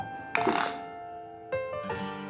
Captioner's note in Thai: เสียงสายวัดตัว